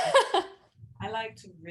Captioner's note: laughing